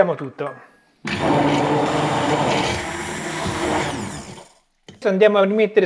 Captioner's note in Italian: rumore del frullatore